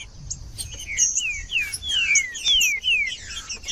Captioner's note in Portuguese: trinca ferro cantando